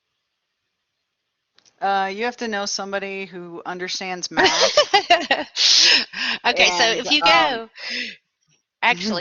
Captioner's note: laughter